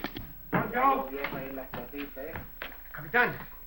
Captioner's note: chatter